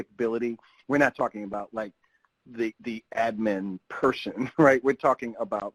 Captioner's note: chuckles